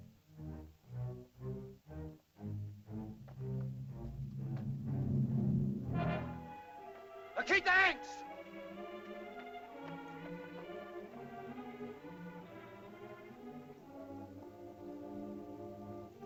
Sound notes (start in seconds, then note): 0.1 dramatic music; 7.4 Tumak shouts in caveman language; 9.9 tense music